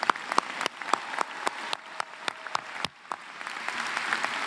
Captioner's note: applause